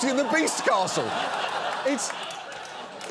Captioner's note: audience laughs